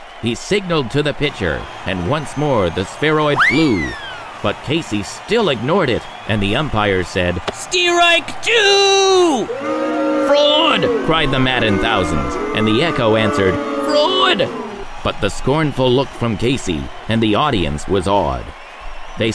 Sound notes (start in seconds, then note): 9.7 crowd booing